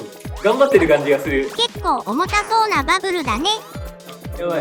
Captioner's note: laughs